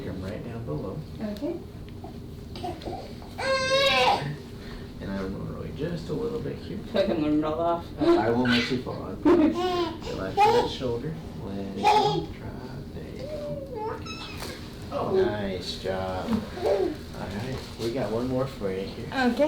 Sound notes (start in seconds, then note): 3.3 baby fusses; 14.3 back cracks